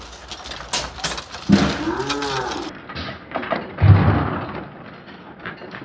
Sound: slow motion computer voice

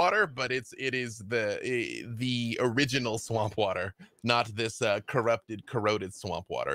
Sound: none

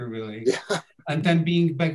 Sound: laughs

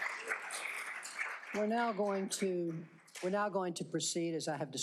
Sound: cheers and applause

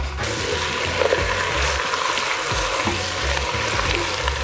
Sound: sizzling

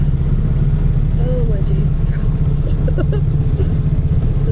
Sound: laughing

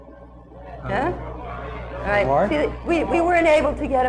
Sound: audience chattering

